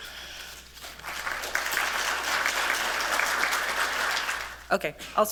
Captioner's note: applause